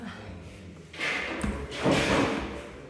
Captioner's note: none